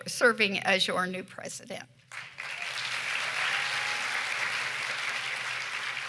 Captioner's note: cheering and applause